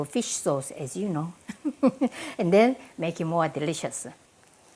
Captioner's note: laughs